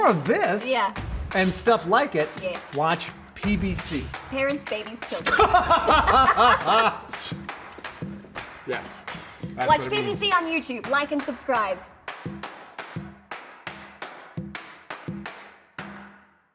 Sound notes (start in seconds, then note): 0.0 upbeat music; 5.1 both laughing